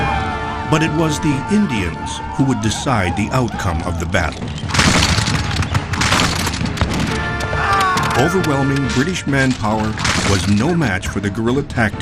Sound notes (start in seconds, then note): 4.5 guns banging